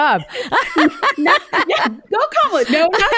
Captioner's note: laughing